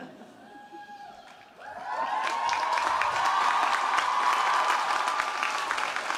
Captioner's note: audience cheering and applauding